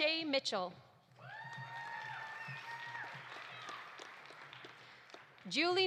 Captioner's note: audience cheering; audience applauding